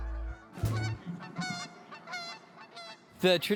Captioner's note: geese honking